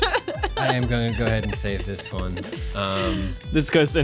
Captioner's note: laughing; pat